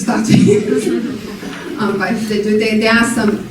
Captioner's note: laughing